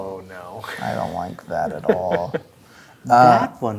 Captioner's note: laughing